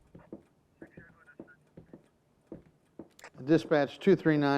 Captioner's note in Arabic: ثرثرة من جهاز اللاسلكي للشرطة